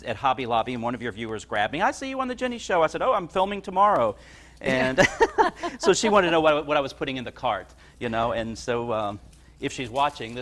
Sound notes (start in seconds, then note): 4.6 both laugh